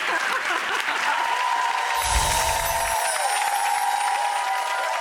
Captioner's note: audience cheering